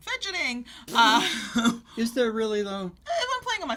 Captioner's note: scoffs